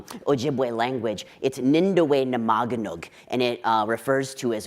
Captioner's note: speaking in foreign language